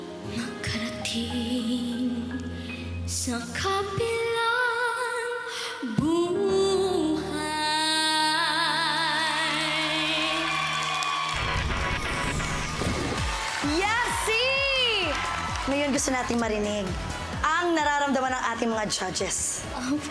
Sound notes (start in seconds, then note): 9.4 audience cheers